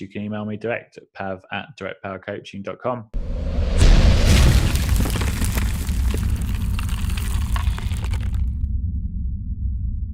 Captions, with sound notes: email me direct at directpowercoaching.com. (loud thud) (crumbling noise)